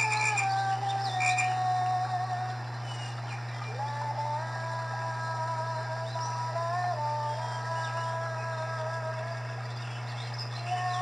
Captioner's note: humming